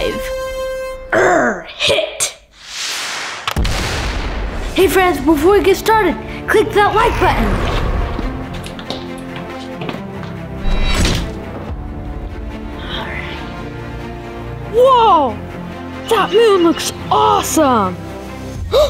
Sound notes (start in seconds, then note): 2.7 explosion